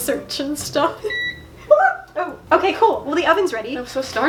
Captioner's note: oven beeps; small yelping noise in fear of the oven